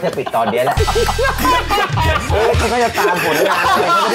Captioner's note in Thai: หัวเราะ